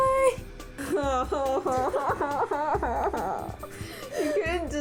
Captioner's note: laugh-crying